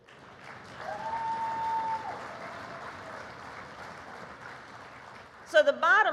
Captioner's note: applause